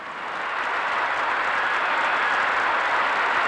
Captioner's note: applause